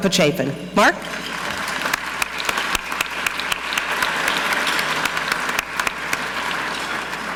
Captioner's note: audience clapping; clapping